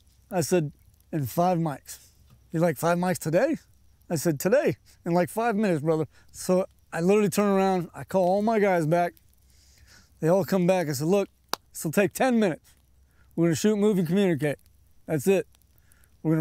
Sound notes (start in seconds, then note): none